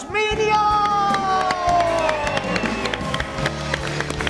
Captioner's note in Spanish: Aplausos